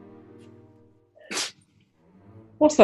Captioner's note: sneeze